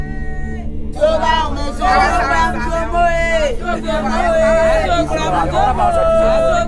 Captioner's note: woman chanting in foreign language